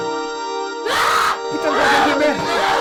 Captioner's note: sound of screaming